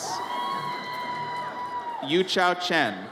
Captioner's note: audience cheers